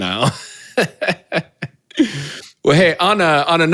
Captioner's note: laughs